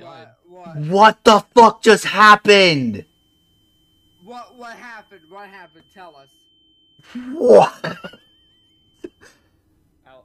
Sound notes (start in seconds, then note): 7.0 wheeze